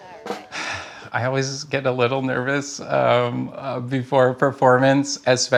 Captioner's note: quiet chatting, drum taps; sighs